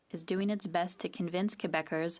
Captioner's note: speaking French